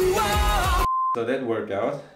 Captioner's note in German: Piepton